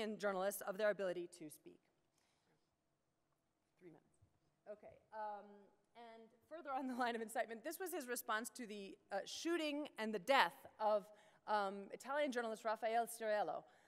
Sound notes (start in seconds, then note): 3.4 voiceover